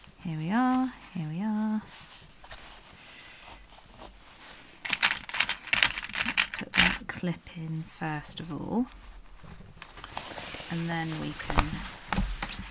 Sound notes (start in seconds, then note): 4.8 rattling